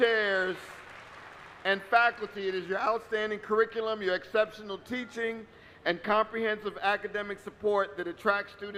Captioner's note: applause